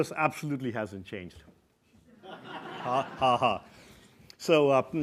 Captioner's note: laugh